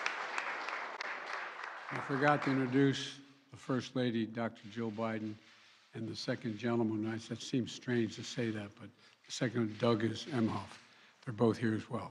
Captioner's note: applause